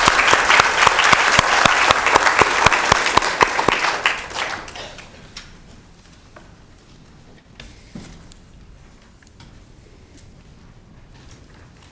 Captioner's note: applause